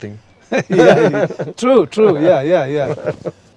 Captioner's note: laughs